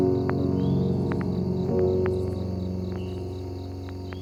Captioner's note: birds chirping